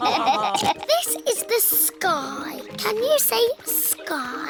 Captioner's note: laughter; snorts